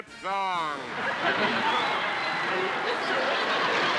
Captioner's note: cheering; laughter